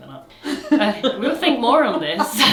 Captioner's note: both laugh; laughs